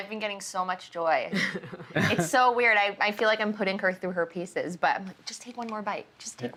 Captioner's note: laughs